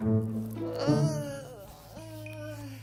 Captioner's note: groans